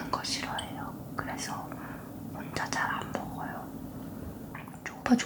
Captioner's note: whisper; whisper